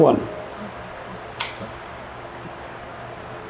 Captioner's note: shears snap